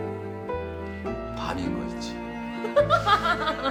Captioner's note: speaking in Korean; girl laughs